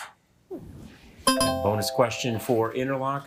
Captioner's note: buzzer ringing; bell ringing